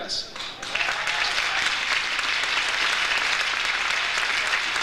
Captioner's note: audience applauds